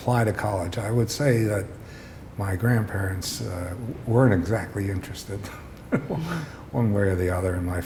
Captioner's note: chuckle